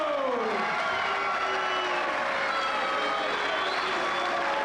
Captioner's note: crowd cheering